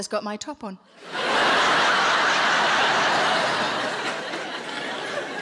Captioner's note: audience laughing